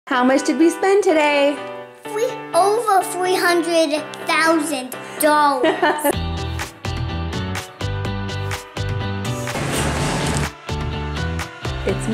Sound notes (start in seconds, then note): 5.6 laughs; 8.5 cheerful music